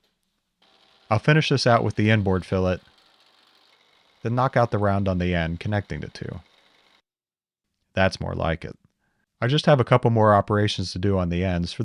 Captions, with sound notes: I'll finish this out (drill whirring) with the inboard fillet then knock out the round on the end, connecting the two. That's more like it. I just have a couple more operations to do on the ends